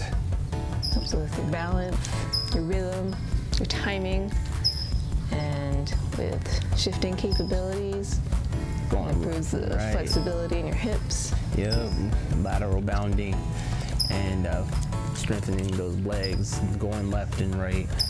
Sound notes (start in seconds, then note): none